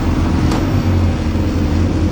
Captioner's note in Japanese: 車の音